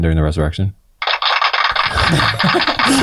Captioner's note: crowd clapping; all laughing